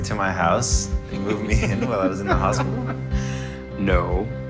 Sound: Carlos laughing

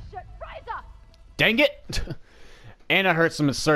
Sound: chuckle

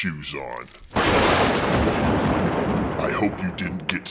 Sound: thunder

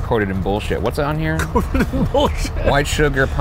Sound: laughing

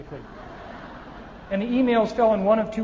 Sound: audience laughing

